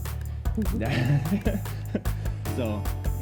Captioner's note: both laugh